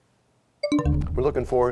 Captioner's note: bell chimes, time expires